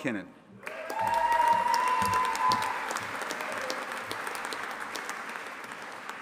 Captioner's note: audience applauding and cheering